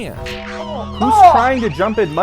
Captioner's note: Undertaker's gong sounding